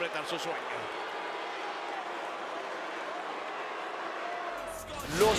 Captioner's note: applause